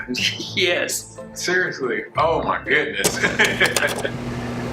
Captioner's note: laughs